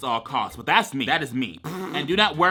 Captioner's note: blows raspberry